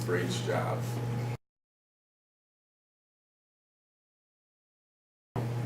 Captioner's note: silence